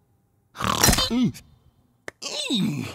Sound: silly Noises

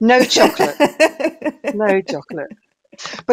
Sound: laughs

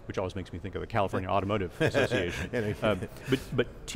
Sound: laughter

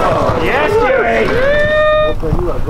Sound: crowd

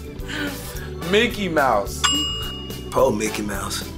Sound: bell sound

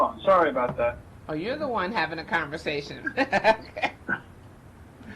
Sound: laughs

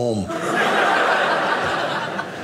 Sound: audience laughing

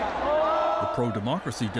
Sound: cheers and Applause

